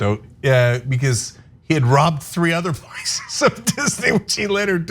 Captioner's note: laugh